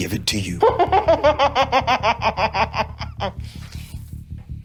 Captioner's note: Opal laughing